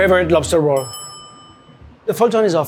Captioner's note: bell rings